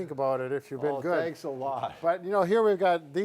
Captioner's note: laughing